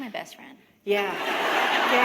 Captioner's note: laughter